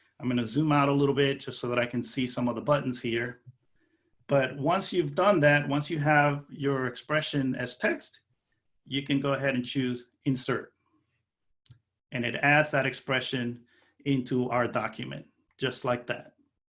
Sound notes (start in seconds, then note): none